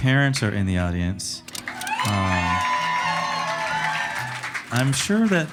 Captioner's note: audience applauding and cheering